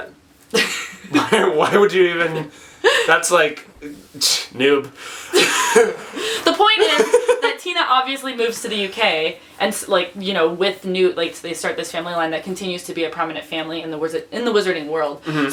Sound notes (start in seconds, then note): 0.5 laughs; 5.2 laugh